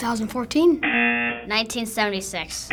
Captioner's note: rejection buzzer